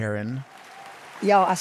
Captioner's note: audience applauding